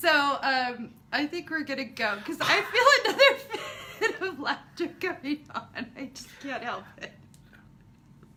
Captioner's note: laughing